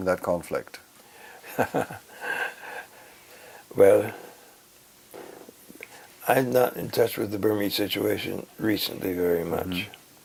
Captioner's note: laugh